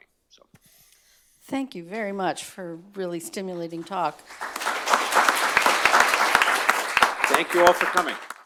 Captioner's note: applause